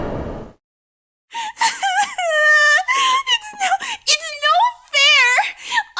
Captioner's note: sob